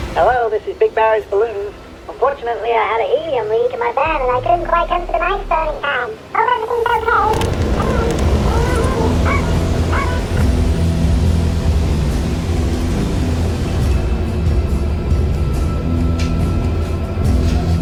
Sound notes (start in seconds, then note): 6.0 high-pitched voice chattering; 8.1 intense music